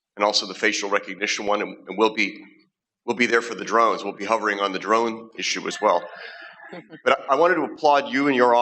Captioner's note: laughter